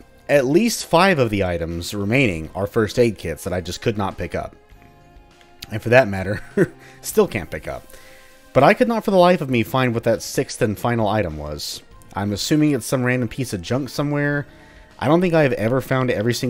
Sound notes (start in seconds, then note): 6.2 chuckles